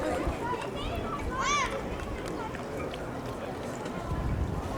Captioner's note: mostly noises of people on the harbour